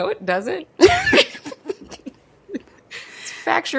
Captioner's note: both laugh; laughs